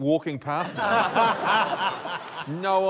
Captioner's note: laughter